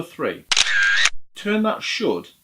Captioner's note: camera shutter clicks